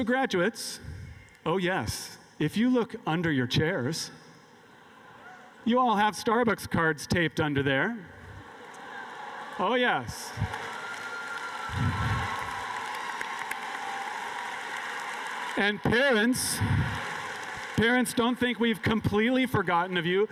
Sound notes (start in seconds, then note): 11.3 cheers and applause